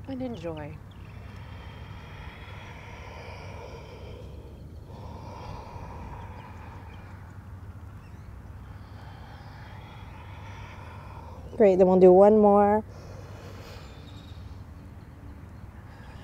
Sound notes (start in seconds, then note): 1.0 takes deep breath; 4.9 blows out breath; 8.4 takes deep breath; 12.9 blows out breath